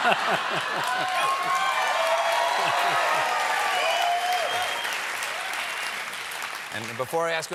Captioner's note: cheers and applause